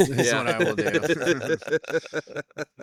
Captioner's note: laughing